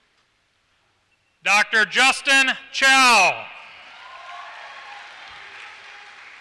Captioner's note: applause